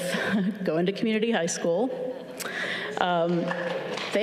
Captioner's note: chuckles